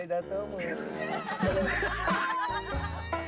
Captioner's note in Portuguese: todos caem na risada